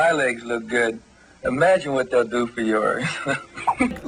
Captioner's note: laughs